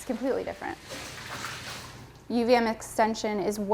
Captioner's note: water sloshes